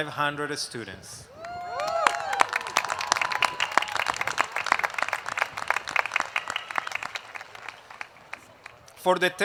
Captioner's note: applause